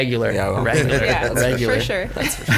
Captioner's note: giggles; chuckles